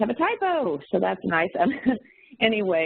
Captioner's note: chuckles